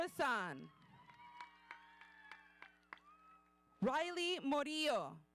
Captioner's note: audience cheering